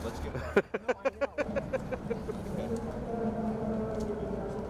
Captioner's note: man laughing